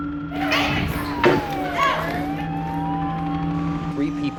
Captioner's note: sirens resounding